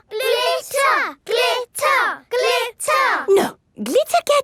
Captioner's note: chanting